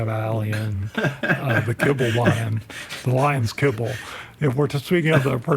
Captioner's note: laughs